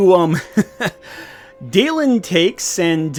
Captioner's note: laughs awkwardly